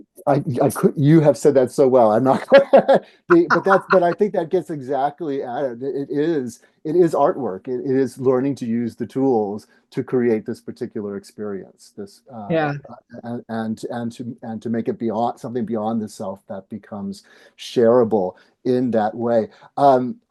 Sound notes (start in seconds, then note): 2.6 laughing